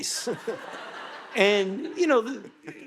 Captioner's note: audience laughing